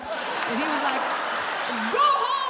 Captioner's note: audience laughs